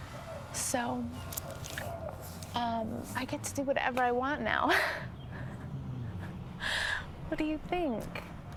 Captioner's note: 笑声; chuckles